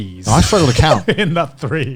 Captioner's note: laughs